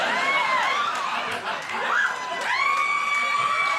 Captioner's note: audience laughing